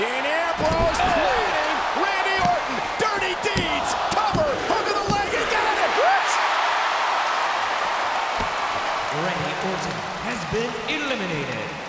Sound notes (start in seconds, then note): 7.0 audience cheers